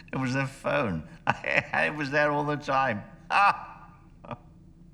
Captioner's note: laughing